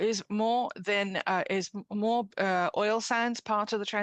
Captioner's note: speaking French